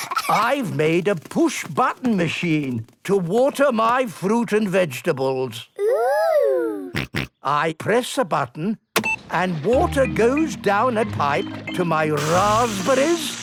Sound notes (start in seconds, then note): 6.9 snorting; 9.0 beep!